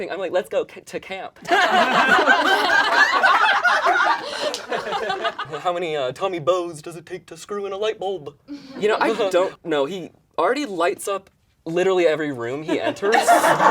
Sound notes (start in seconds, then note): 1.4 all laugh; 12.8 all laugh